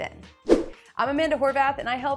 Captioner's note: graphic whooshes